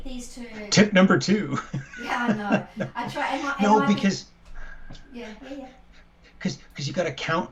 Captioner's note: laughter